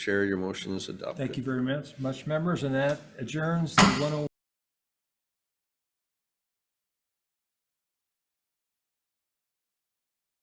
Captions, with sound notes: Chair, your motion is adopted. - Thank you very much, Members, and that adjourns one oh. (gavel bangs)